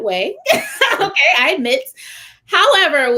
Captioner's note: laughter